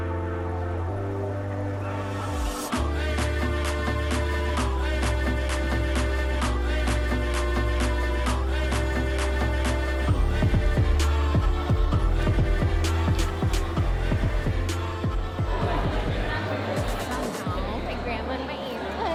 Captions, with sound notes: (crowd chatters) My grandma and my auntie.